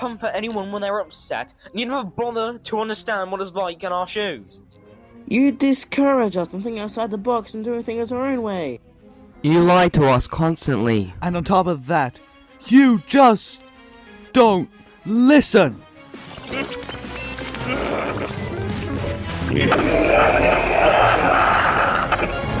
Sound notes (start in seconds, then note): 16.0 growling; 17.2 shrieking